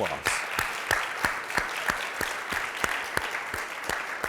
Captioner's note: applause